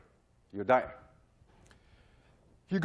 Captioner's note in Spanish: sin audio